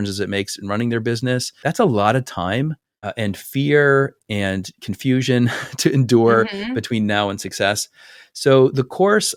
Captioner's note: laugh